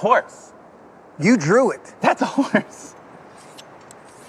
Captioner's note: laughs